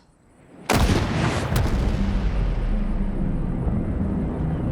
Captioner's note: rifle blasts